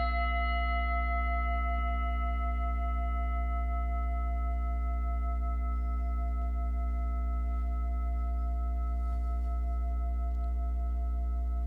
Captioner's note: singing bowl